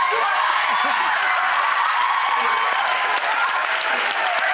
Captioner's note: audience cheering